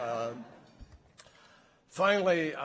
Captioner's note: laughter